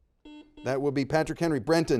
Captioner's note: buzzer dings